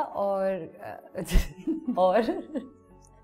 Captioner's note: giggles